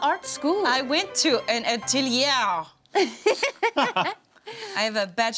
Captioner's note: laughs